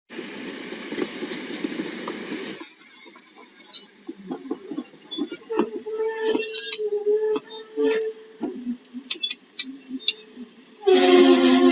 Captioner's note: sound of train car moving, metallic squeal, clunk when couplers touch